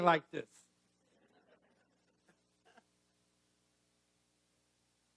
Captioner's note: audience laughing